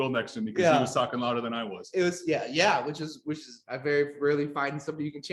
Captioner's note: laughs